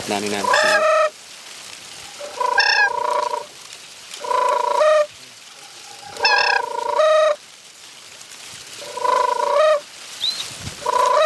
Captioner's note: crane calls